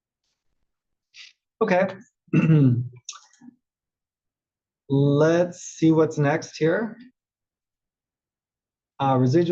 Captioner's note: cough